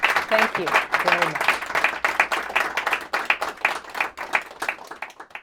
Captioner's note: applause